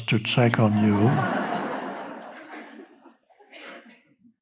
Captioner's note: audience laughing